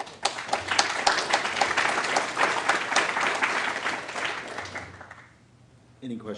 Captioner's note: applause